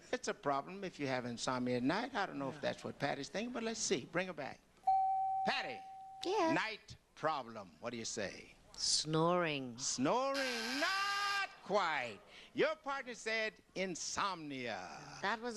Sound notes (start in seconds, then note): 4.8 beep; 10.3 buzzer